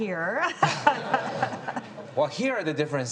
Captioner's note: audience laughs